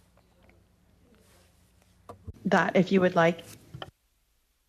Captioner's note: speaking French